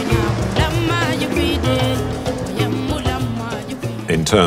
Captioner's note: foreign language